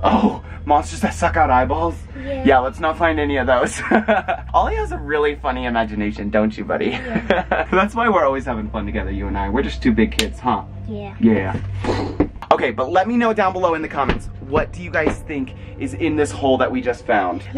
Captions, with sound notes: - Oh, monsters that suck out eyeballs? - Yeah. - Yeah, let's not find any of those. (laughs) Ollie has a really funny imagination, don't you buddy? - Yeah. (laughter) - That's why we're always having fun together, you and I. We're just two big kids, huh? - Yeah. - Yeah. Okay, but let me know down below in the comments, what do you guys think is in this hole that we just found?